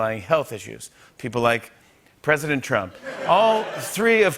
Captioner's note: laughter